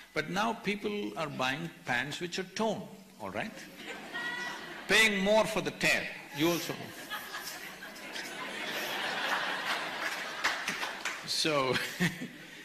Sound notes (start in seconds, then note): 3.7 laughter; 9.7 laughter/Applause; 11.7 laughs